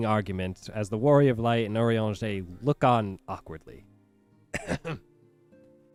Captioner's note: cough